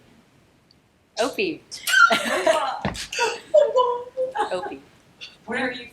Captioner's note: laughing